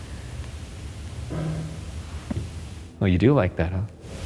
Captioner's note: object clunks